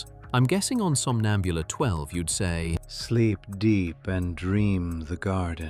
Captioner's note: matter-of-factly